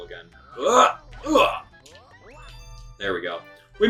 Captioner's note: grunts